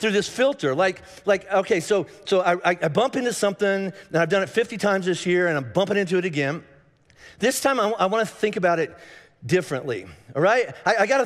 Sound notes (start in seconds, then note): none